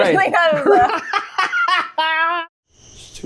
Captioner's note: laughter